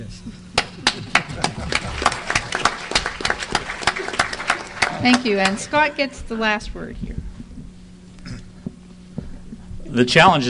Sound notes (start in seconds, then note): 0.6 laughing; 2.5 applause